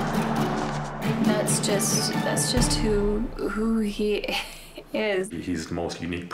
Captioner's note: chuckles